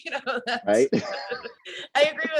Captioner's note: both laugh